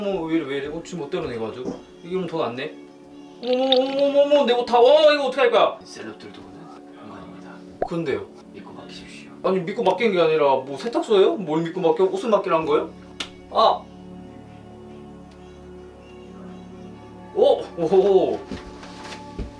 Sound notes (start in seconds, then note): 13.2 slap